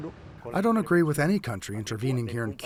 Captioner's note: through translator